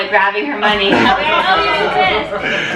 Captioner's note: laughter